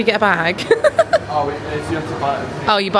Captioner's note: laughs